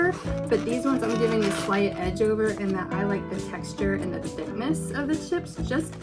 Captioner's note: none